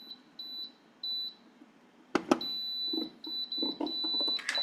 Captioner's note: mixer beeps